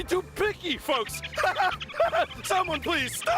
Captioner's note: laughs deliriously